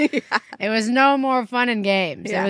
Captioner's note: chuckling